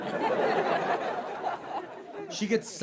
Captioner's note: audience laughing